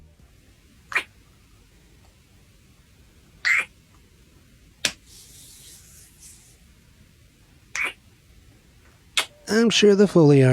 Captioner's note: kisses, slaps